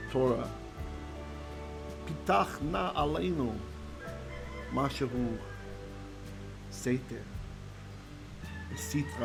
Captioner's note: Hebrew